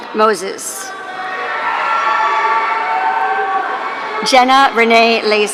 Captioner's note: audience cheering